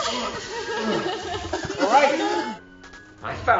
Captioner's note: woman crying